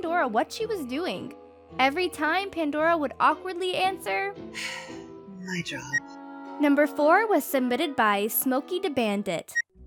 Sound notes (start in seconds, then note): 4.5 sighs